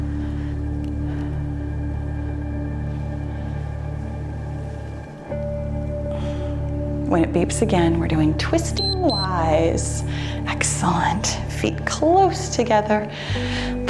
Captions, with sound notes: When it beeps again, we're doing twisting Ys. (timer beeps) Excellent, feet close together.